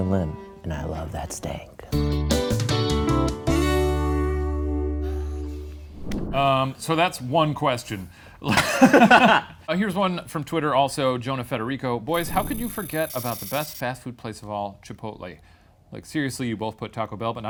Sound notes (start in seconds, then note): 2.3 upbeat music; 8.4 laughs